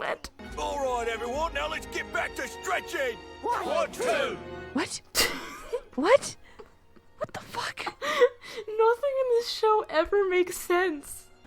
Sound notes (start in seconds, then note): 0.0 laughing; 3.2 crowd; 8.4 through laughter